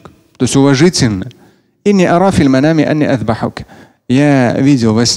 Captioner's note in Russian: Говорит на арабском